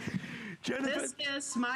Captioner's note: laughter